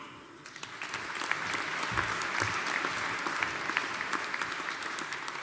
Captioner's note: audience applauding